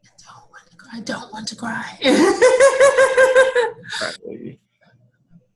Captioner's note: laughs loudly